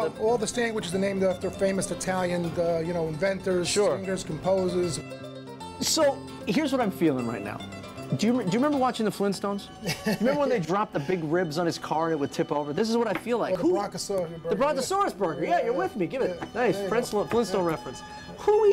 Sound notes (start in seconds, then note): 9.8 laughter